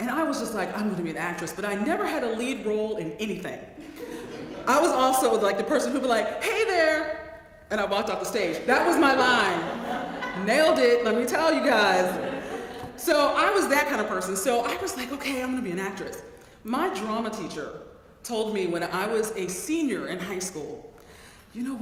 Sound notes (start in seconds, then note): 3.8 laugh; 8.7 laugh; 12.0 laugh